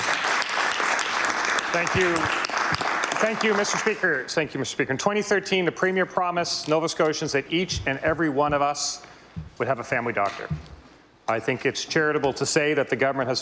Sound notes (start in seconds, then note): 7.9 applause